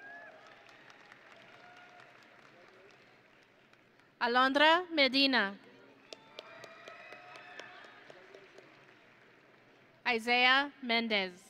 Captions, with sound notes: (audience and graduates cheering) Alondra Medina. (audience and graduates applauding) Isiah Mendez.